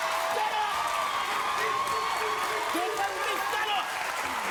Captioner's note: cheering